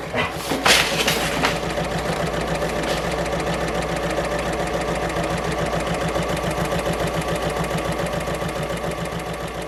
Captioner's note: sewing Machine Sounds